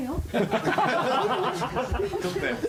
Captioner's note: all laughing